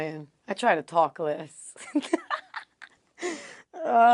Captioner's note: laugh